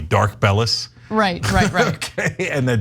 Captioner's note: laugh